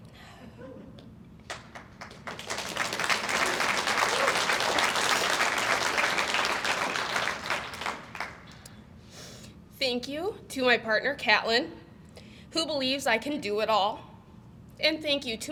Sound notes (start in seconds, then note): 1.4 audience applauds